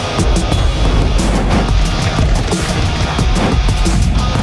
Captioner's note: The Angel groans; air whooshing; dramatic rhythmic music continues